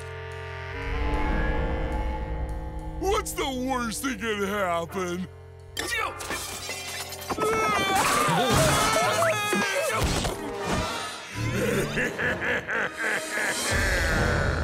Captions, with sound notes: What's the worst that could happen? [shattering] [groaning] [laughing]